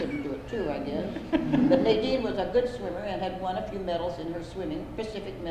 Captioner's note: laughter